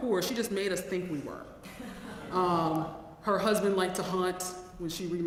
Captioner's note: laugh